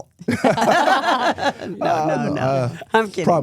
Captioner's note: everyone laughs